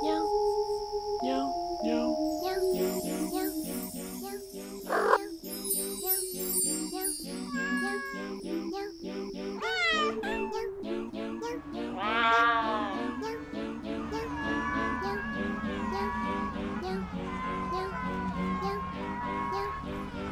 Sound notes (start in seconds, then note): 4.9 cat purrs; 7.5 cat meows; 9.6 cat meows; 12.7 cat meows; 17.0 cats meow